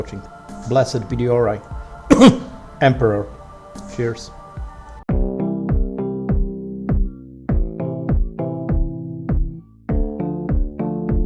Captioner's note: khem